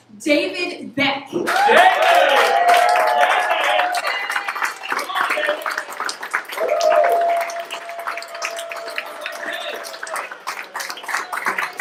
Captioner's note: applause